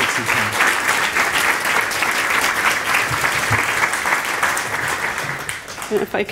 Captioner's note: applause